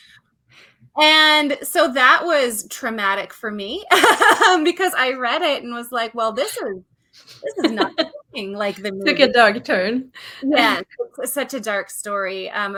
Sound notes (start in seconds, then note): 3.1 laughs